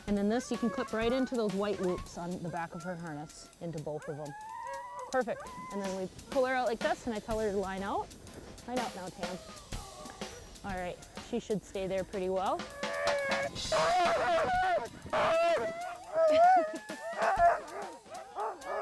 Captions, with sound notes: and then this, you can put right into those white loops on the back of her harness, into both of 'em. Perfect, and then we pull her out like this, with that colored line out. I don't know, Tam. All right, she should stay there pretty well. (yowling) (barking)